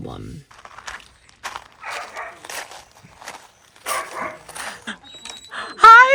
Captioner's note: footsteps crunching; dog barking